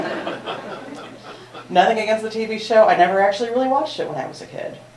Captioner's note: laughter